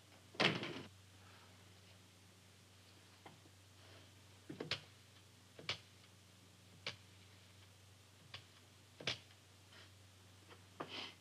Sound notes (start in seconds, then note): 0.6 door clicking; 4.9 dial clacking